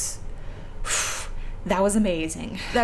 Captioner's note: relieved sigh